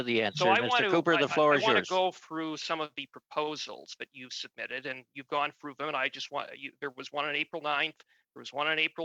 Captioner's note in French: voix de l'interprète